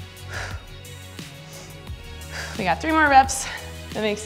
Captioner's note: exhales